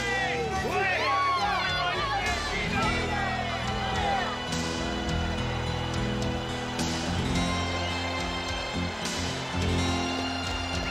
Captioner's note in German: beifall